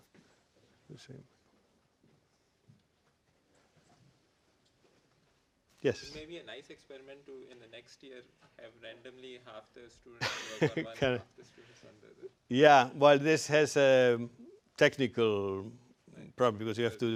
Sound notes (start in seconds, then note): 10.2 laugh